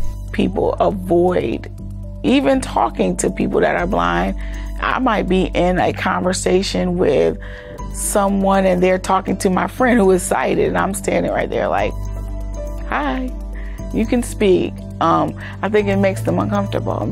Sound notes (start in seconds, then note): none